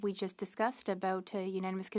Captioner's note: speaking French